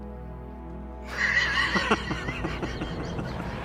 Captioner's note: both laugh